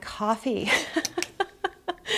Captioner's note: laughs